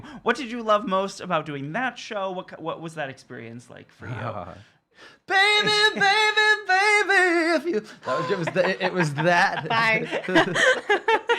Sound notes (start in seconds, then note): 7.8 gasping